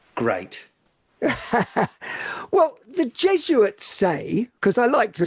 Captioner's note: laughing